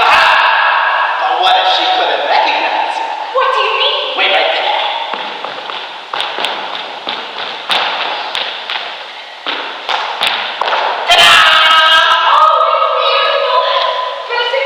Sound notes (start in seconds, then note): 7.8 boots clomping